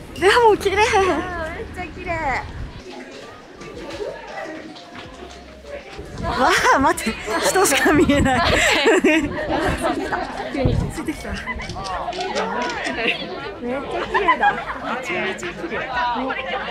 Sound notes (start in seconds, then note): 6.3 laughs